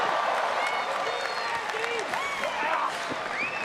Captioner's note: crowd cheers; crowd applauding